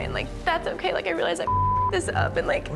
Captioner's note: beep